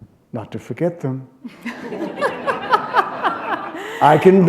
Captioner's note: laughter